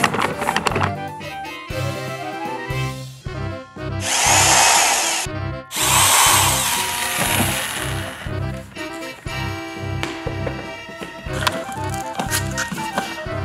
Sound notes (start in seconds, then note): 0.1 upbeat music; 5.7 power drilling